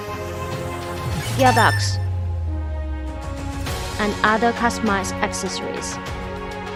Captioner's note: raising up engine output speed